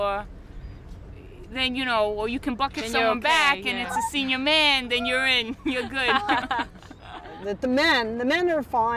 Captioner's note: laughs